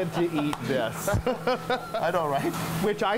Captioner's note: laughter